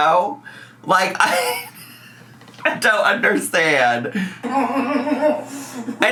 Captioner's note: laughs